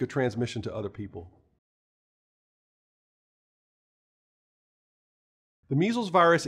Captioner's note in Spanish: Sin audio